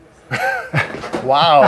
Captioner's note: they laugh